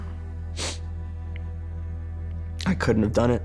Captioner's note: sniffles